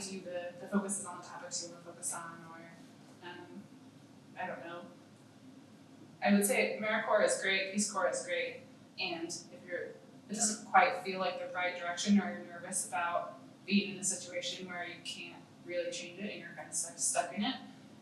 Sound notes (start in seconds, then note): none